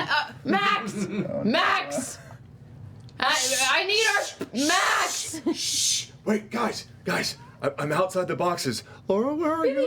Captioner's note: shushing